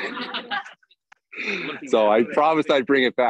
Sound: everyone laughs

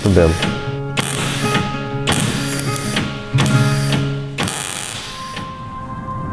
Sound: welding

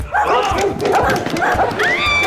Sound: barking; screaming

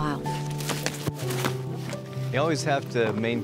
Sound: wings flapping

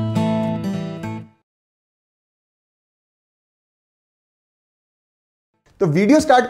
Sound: silent

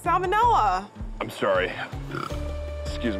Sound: stifled burp

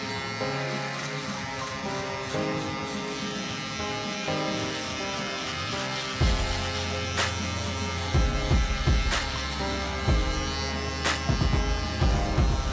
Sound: emotional Music; buzzing

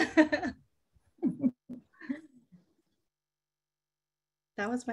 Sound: laughter

